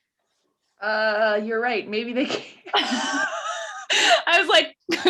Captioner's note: laughing